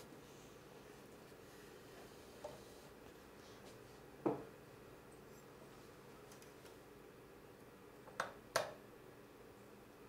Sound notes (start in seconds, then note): 3.8 knocking